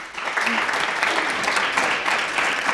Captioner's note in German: Applaus